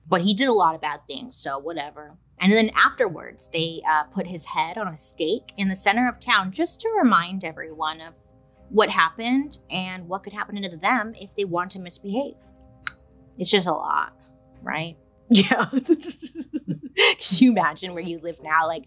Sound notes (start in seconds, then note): 12.8 clicks tongue; 15.5 laughing